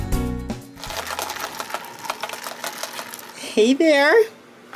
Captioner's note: instrumental; liquid sloshes